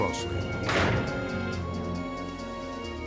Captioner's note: jail gate slams; soft dramatic music